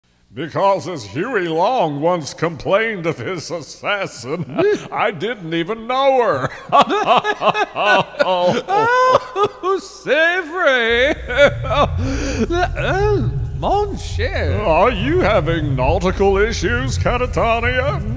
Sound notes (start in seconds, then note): 6.3 laughter